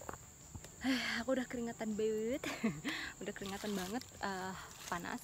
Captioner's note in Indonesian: heheheh